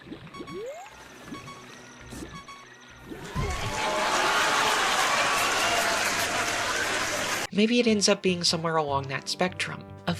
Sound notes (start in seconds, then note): 3.2 laugh track; 4.7 cheering